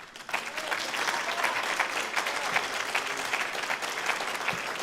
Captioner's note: audience applauding